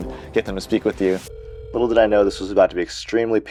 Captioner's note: phone ringing